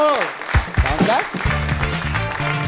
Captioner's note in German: Applaus